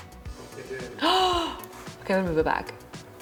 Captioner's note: gasps